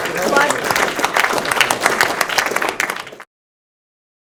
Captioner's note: audience applauding